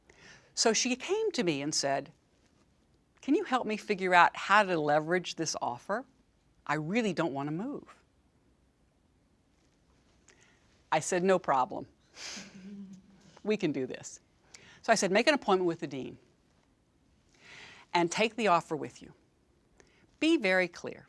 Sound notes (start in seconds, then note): 12.4 laugh